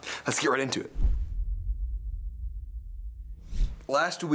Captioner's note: logo thuds